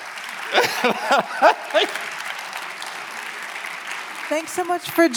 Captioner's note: audience applauding; laughing